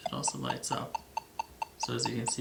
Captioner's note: GS2 beeping